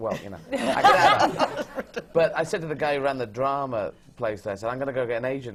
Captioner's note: laughter